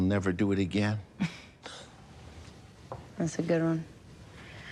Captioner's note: chuckles